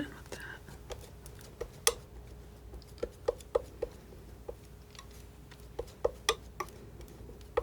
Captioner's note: tapping